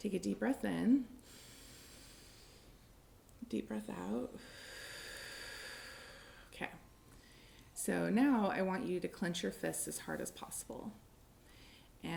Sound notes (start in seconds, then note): 4.4 inhaling; 7.7 exhaling